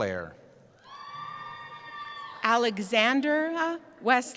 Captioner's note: cheering